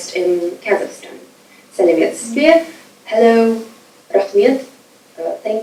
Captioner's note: speaking foreign language